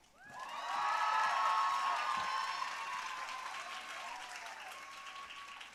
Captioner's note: audience cheering and applauding